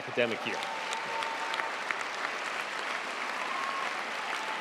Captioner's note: crowd applauds